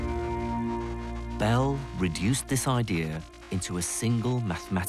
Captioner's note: voiceover